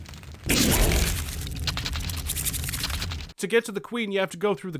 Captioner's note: elevator rumbling, T'chekrik chittering